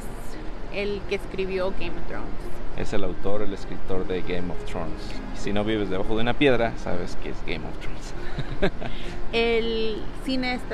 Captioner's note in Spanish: risas